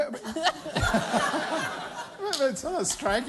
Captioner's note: laughter